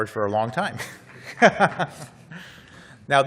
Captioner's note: laughs